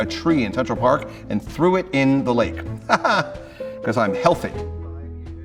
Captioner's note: laughs